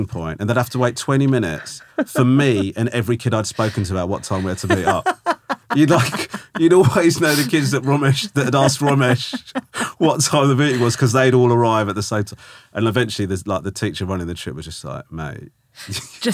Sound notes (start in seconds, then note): 5.0 laughing